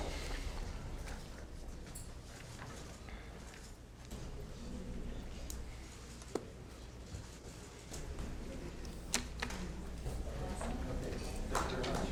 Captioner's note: applause